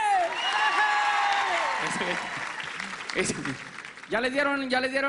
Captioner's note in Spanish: Aplausos cálidos